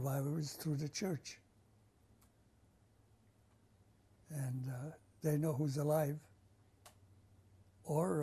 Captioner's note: pauses for 3 seconds